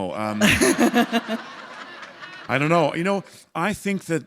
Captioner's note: laughter